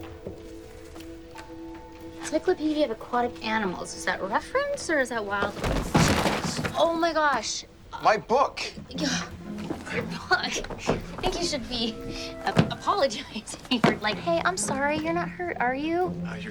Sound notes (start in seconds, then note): 1.0 somber music; 5.4 thud